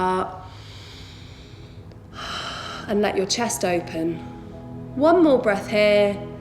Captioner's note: heavy breathing